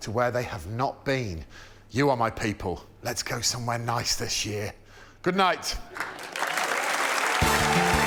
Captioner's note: applause